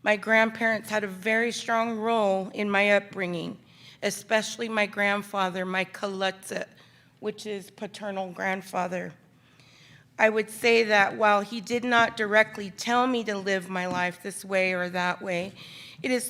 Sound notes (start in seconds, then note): 5.7 speaks in foreign language